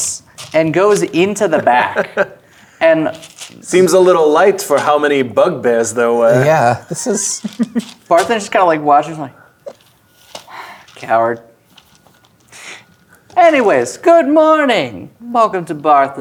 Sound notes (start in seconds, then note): 2.1 chuckling; 3.1 dice rattling in bag